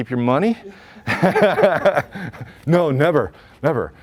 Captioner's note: laughs